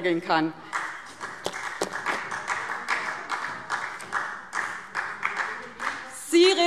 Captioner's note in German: Beifall